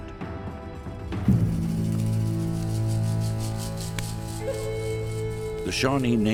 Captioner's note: fire crackling; solemn music